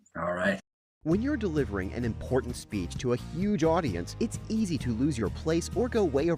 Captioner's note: voiceover